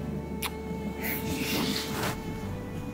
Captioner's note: Kissing